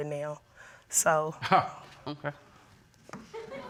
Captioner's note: chuckling